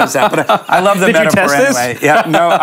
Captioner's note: laughs